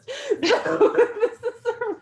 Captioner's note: laughs